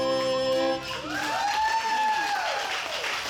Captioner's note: audience applauds; audience cheers